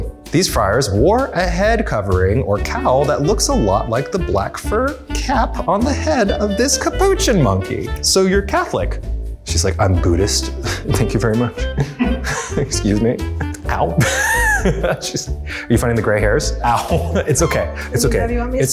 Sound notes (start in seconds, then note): 11.6 laughs; 13.9 laughter